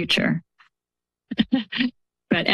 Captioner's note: laughs